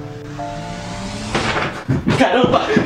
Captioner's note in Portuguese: Se ouve um barulho forte